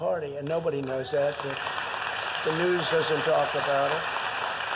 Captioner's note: applause